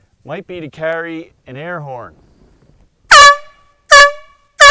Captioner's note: 3 loud airhorn blasts